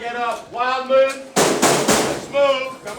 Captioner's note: banging locker